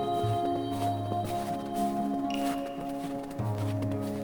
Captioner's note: snow Crunching